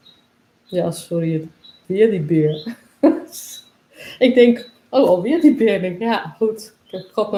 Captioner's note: laughs